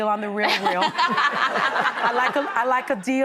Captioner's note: laughing